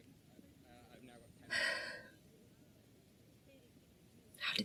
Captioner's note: sighs